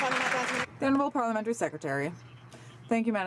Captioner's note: some Applause